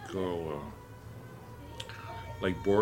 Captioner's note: child crying